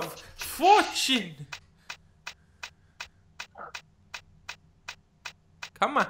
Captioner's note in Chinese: 輪子轉轉